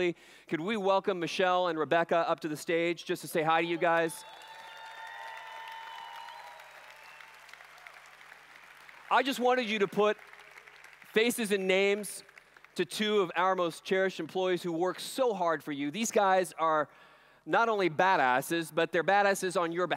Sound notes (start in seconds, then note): 3.8 applause/Cheering